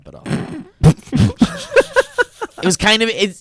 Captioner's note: laughs